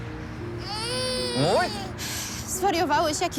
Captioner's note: child crying